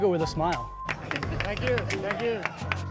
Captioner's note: clapping